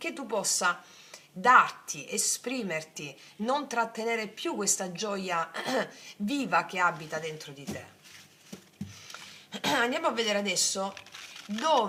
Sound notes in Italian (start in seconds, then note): 5.6 schiarire la voce